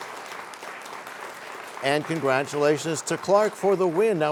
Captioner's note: applause